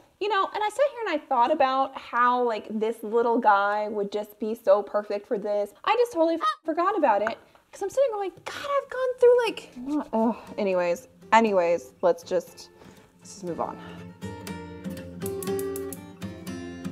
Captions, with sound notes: You know, and I sat here and I thought about how this little guy would just be so perfect for this. I just totally (goose honking) forgot about it. 'Cause I'm sitting here like, "God, I've gone through, like..." Anyways, anyways, let's just move on. (mild music)